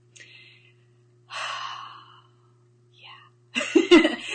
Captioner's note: exhales; laughs